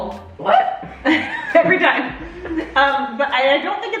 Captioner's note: laughs